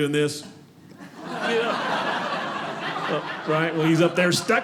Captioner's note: audience laughing